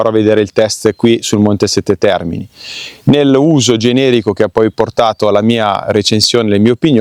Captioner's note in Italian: sbuffare